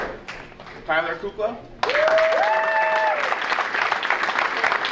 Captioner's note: audience cheering